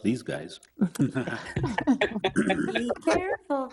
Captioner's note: people chuckling